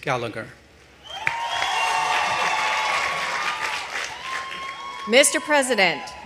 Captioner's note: audience applauding